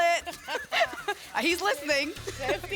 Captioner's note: laughter